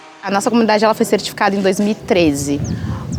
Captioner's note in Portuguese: pássaros cantam